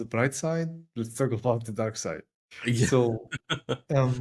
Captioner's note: laugh